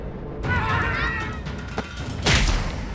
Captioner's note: screams